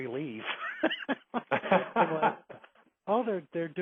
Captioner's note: laughing